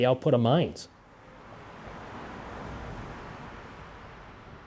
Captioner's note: traffic humming